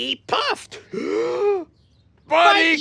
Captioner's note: gasps